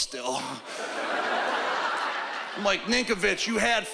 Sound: laughter

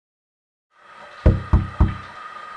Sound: knock! Knock! Knock!

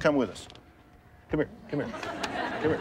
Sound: audience laughs

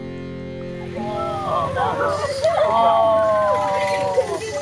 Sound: joyful sounds and laughter

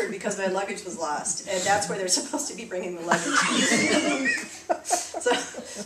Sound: laughter

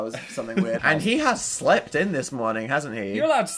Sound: chuckling in background

